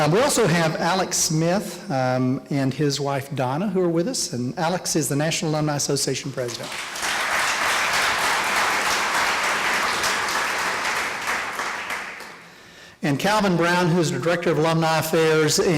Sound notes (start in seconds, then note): 6.4 applause